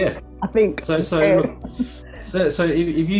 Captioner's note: laughs